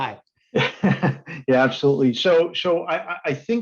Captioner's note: laughs